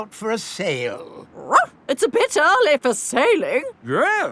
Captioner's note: barks